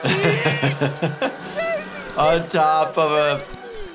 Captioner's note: laughs